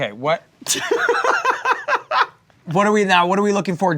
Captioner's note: laughing